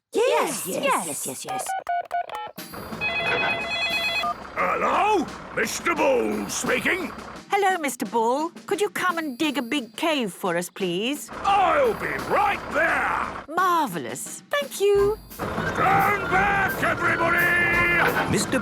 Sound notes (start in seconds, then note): 1.5 phone ringing; 2.8 phone beeping; 15.6 shouting